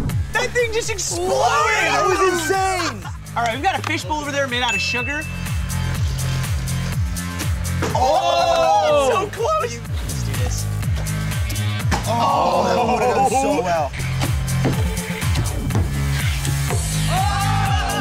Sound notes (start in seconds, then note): 6.2 electronic music; 8.5 hollering; 11.5 electronic music; 12.2 hollering and laughing; 14.6 electronic music; 17.0 screaming and laughing